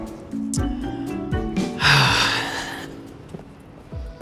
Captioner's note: sighs